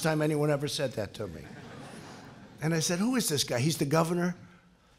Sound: laughter

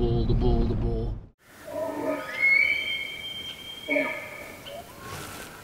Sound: elk Bugling; elk Bugling Nearby

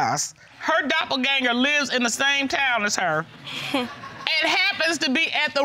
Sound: scoffs

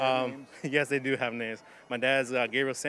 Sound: chuckling

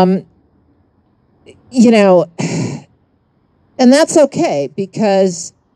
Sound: sighs

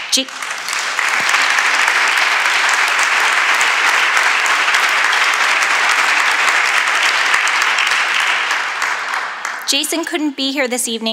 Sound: applause

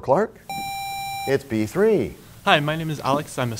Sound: sound of a buzzer

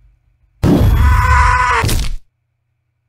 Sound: Wario screaming

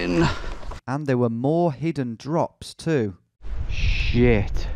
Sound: voiceover

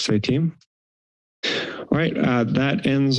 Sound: inhales

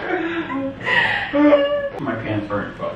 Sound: laughs

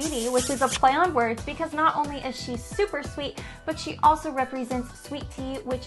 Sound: kissing sound

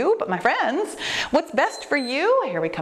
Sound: timer beeps

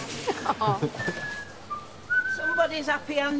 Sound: whistles

